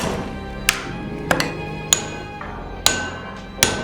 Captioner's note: metal clanging